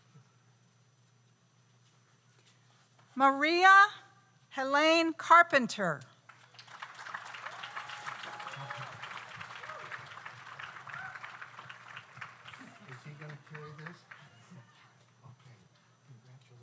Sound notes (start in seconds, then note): 6.3 audience applauds